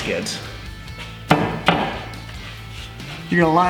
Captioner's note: pounding